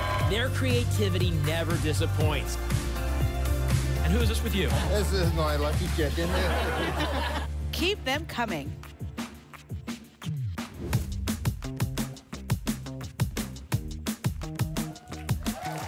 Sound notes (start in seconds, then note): 6.1 laughter; 14.5 applause and cheering